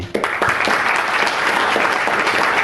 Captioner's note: audience applauds